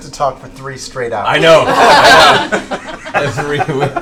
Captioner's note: laughter; laughs